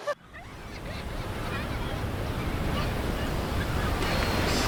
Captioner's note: laughter; ocean waves crashing